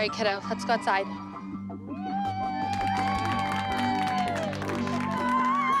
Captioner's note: cheering